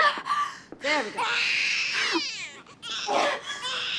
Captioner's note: baby crying; panting